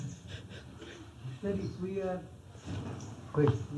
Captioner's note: laughs